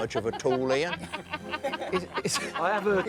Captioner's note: laughing